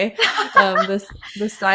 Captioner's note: laughing